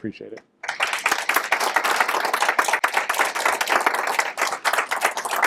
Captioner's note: applause